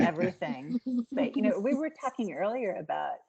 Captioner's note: giggling